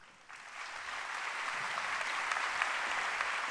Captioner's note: applause